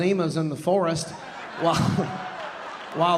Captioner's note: audience laughing